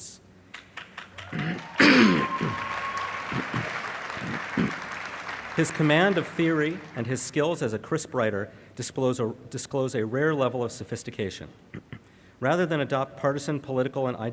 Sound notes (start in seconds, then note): 0.5 applause